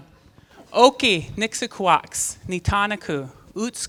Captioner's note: non-english speech